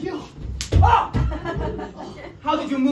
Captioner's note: slap